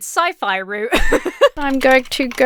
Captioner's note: laughs